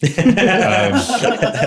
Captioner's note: laughter